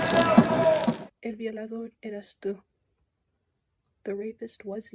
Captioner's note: non-english speech